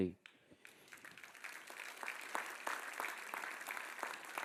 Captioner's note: audience applauds